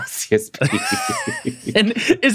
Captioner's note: laughter